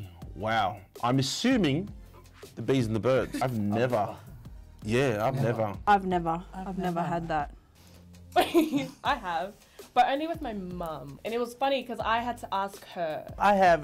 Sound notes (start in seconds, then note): 3.1 chuckles; 9.2 laughs